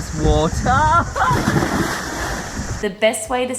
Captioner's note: water splashing